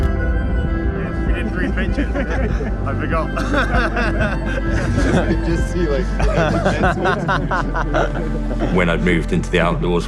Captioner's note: faster, optimistic upbeat notes; muffled chat and laughter